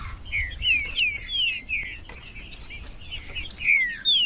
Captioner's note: trinca ferro cantando